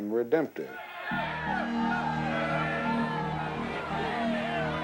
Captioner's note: shouting